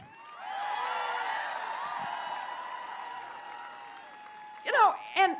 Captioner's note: applause